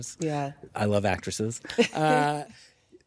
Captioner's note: chuckles